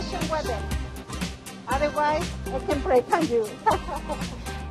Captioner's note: laughs